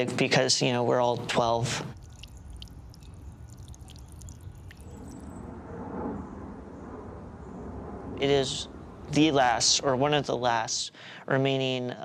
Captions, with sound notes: because we're all 12. (running water) It is the last, or one of the last remaining